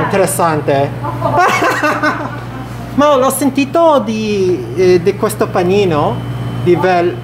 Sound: laugh

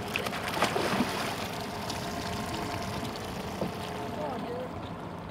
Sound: fish splashing

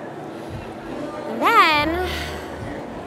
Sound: sighs

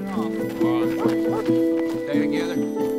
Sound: dogs barking

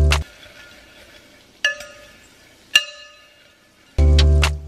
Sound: clanking; slow music

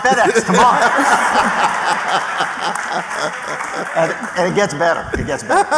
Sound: laughter

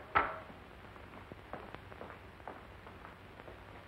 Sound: none

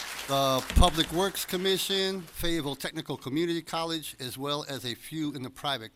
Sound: applause

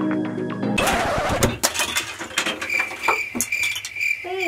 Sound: scratchy rewind sound; crickets chirping

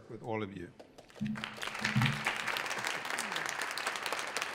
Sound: audience applauds

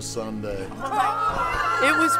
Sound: cheers

